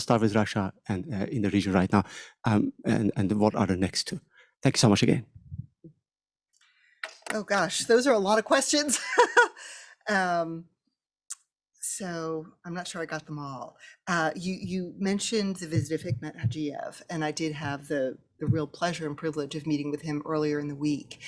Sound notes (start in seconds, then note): 8.9 laughter